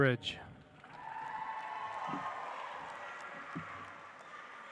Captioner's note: audience applauds